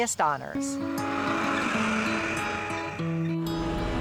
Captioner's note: tractor engine